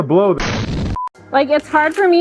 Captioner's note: explosion booming